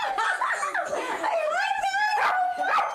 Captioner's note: laughing